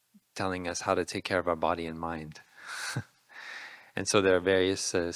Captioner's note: laughing